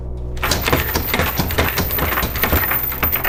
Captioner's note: chains rattling